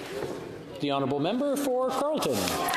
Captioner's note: some Applause